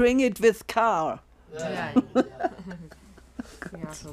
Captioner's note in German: Lachen